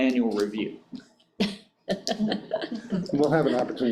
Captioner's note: board members laughing